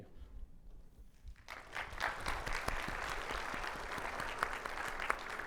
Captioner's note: audience applauds